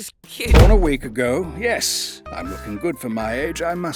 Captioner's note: none